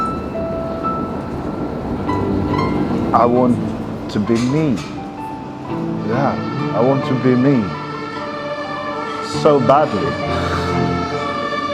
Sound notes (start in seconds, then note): 0.0 train engine revving; 0.2 gentle music; 8.8 sirens wailing